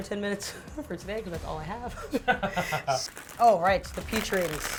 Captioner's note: laughing